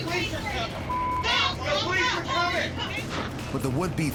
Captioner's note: overlapping shouting, cursing